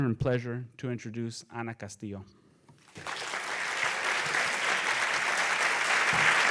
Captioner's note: audience applauds